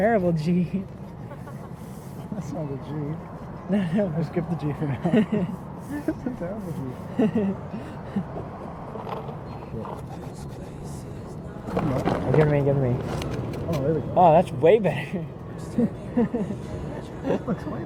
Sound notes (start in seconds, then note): 1.0 laughing; 4.9 laughing; 7.0 both laughing; 15.7 laughing